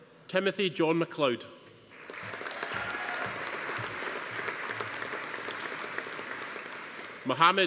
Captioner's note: audience applauding; attendees cheering